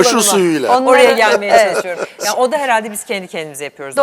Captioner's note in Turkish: kahkaha